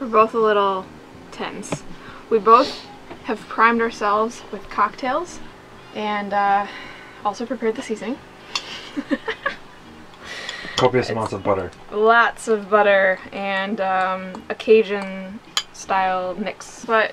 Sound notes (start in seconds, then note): 8.6 laughs